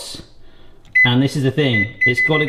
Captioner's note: rapid beeping